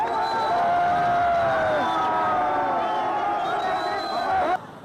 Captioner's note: تشویق حضار